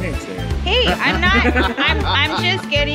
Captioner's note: group laughs